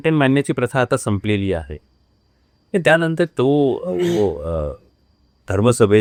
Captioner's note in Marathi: घसा साफ करणे